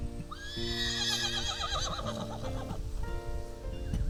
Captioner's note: horse neighs